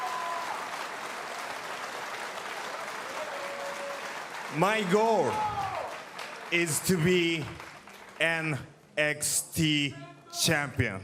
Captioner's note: cheers & applause